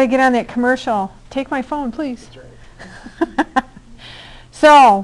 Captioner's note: laughing